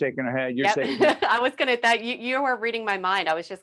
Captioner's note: laughing